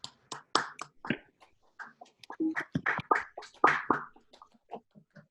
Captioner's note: attendees applauding